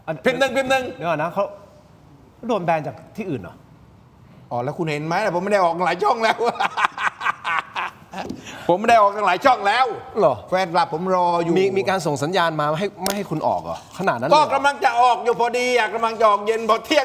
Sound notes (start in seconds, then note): 6.0 laughs